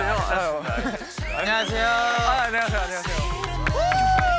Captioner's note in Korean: 박수와 함성 / 왕자님들 오십니다